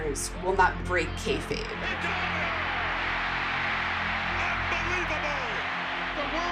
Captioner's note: soundbite of tv show, "wrestlemania"